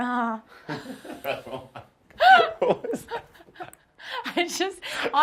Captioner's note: both laughing